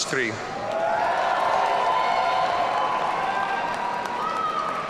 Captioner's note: audience cheering